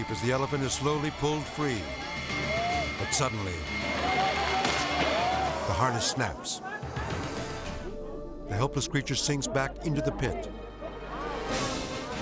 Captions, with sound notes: as the elephant is slowly pulled free, but suddenly, (harness snapping) the harness snaps. The helpless creature sinks back into the pit.